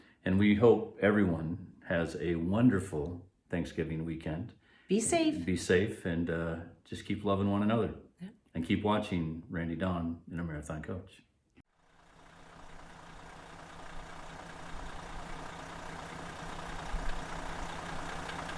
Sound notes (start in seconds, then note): 12.0 engine whirring